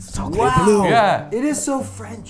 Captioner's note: speaking in French